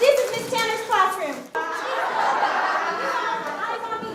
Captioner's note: laughter